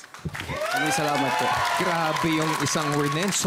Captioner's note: cheering, applauding